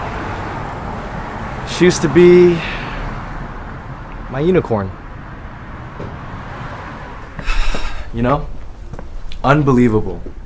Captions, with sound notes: She used to be... my unicorn *exhales sharply* You know? Unbelievable...